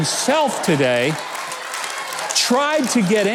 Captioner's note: audience applauds